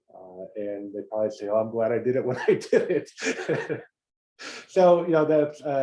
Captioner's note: laugh